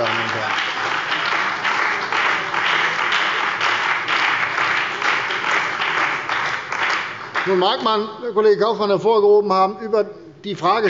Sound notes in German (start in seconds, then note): 0.0 Beifall bei der CDU und dem BÜNDNIS 90/DIE GRÜNEN